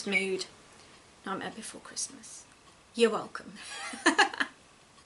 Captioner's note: laughs